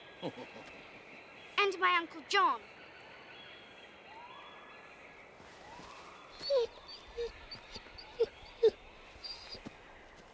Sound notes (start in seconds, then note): 0.1 Pearce chuckling; 6.4 Patch whining